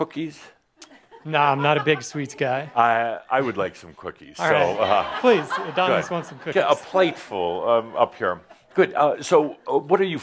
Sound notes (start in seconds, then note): 4.5 laughter